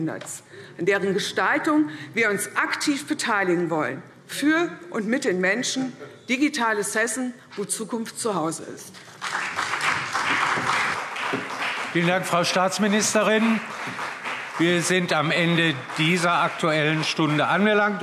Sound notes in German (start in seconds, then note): 9.0 Beifall CDU und vereinzelt BÜNDNIS 90/DIE GRÜNEN